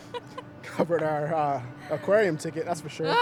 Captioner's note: laughs